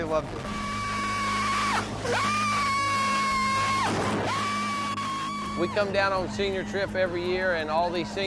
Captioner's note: screams